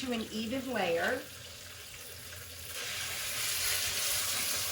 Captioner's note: meat sizzling